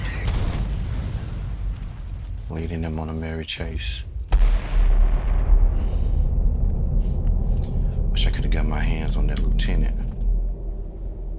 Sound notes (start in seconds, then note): 0.3 bomb rumbling; 4.5 bomb thundering